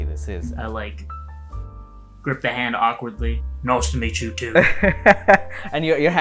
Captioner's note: laughter